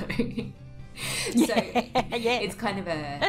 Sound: laughs

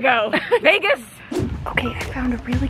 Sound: laughing

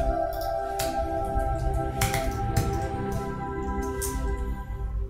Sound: keys clacking; beautiful, soothing chime and bell music

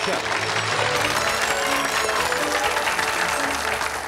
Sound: claps

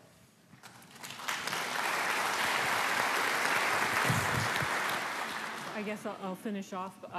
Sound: applause

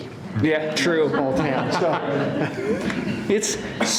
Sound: laughter

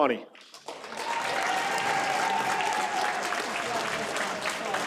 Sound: audience applauds

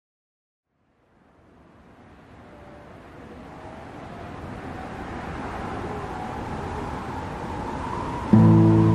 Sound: wind rustling noises

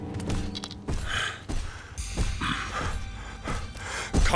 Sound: grunting

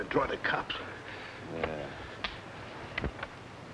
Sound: groans

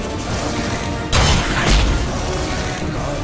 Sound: whooshing sound

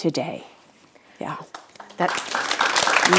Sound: audience applauds

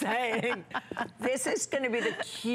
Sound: laughter; laughter

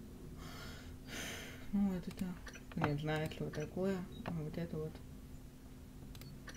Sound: sighs

